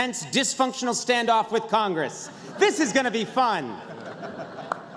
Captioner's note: laughter